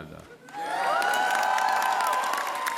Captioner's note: applause